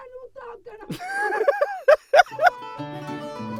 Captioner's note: joyous laughter, caused by the immense helpfulness of my beautiful girlfriend